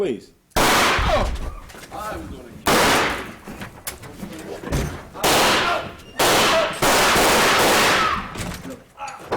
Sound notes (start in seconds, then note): 0.6 gun shot; 3.1 gun shots